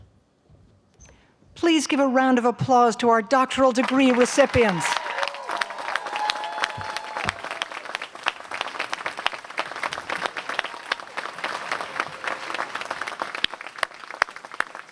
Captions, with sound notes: Please give round of applause to our doctoral degree recipients. [APPLAUSE]